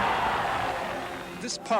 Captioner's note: cheering